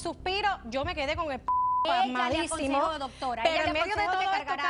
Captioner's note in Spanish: Bip